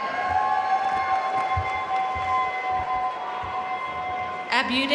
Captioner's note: audience cheering and applauding